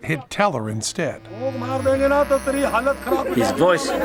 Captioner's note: non-english speech